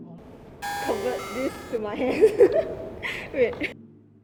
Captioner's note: drum sound; laughs